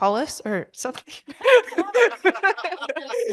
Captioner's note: laughter